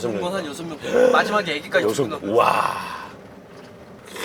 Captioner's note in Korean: 감탄